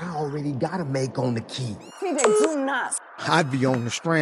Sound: phone service beeps

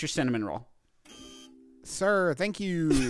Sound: buzzer goes off

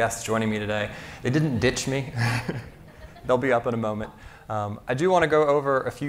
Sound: laughs

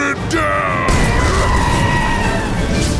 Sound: screaming

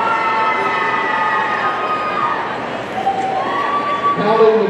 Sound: audience cheering

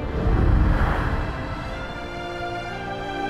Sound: eerie wind rumbles

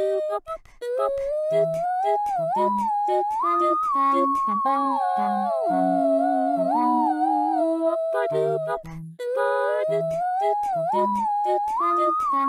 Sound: whistling

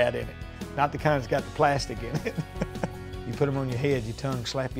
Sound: laughs

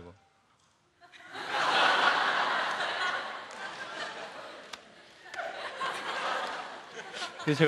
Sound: laugh

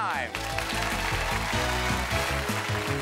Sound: applause; upbeat music

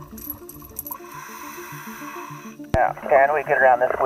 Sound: inhaling air

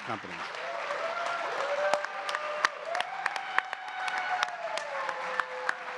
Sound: audience cheering and clapping

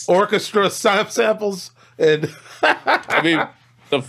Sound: laughs

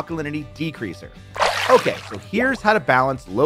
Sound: water splashing

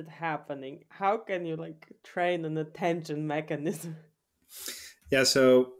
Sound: chuckles

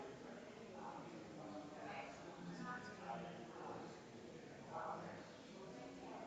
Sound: people chattering distantly continues

